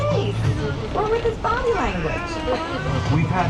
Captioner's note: baby cooing